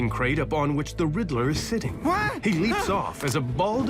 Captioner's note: yelps